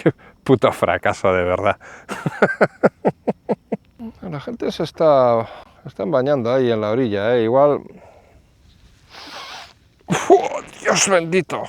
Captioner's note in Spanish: risas